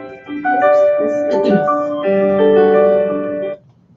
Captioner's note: phone rings